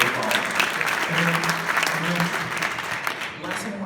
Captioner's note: clapping